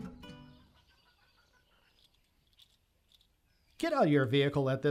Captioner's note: birds chirping; insects chattering